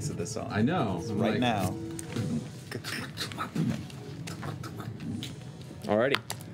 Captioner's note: beatboxes